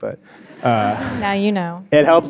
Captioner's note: audience laughing